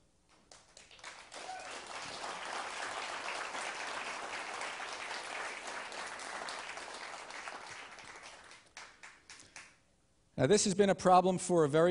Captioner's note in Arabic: تصفيق